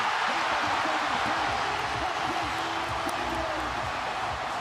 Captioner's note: cheering